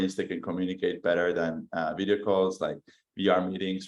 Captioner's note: none